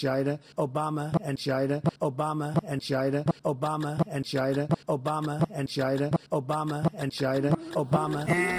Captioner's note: biden starts beatboxing